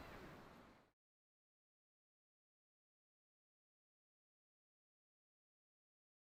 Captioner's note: silence